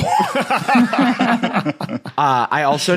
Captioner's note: group laughing